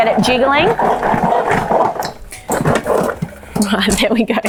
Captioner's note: plates rattling